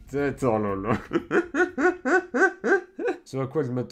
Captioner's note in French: Rires